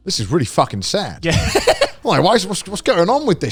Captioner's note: laughing